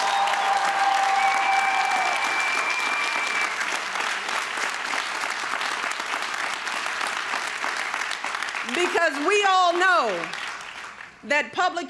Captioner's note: crowd cheering